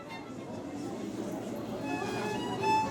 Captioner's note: lively violin music; people chattering; classical violin music